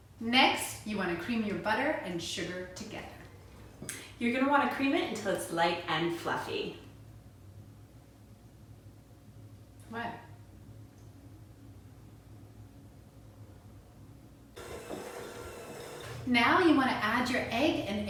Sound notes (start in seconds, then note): 14.6 egg beater whirring